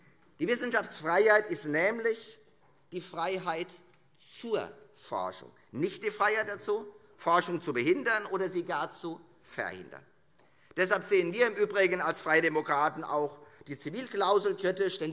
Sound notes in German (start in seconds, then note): none